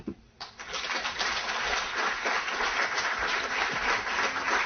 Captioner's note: applause